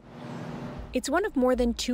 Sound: speaking French

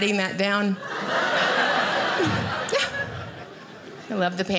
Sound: audience laughing

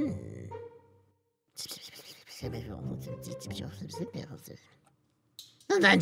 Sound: junky whispering

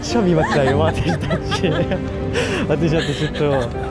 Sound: she is laughing and crying

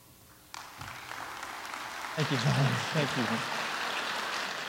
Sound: applause

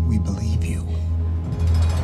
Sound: gate ratcheting

